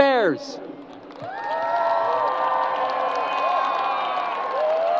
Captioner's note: crowd applause